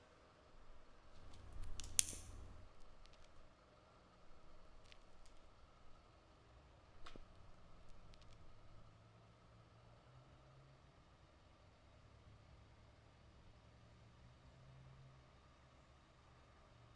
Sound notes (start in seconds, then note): 1.0 flashlight clicks